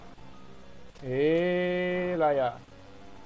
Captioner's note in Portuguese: indignado